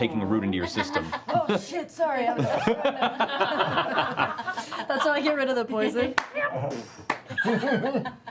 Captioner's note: airy fart